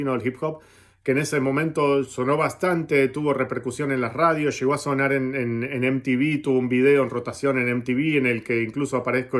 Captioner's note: Latin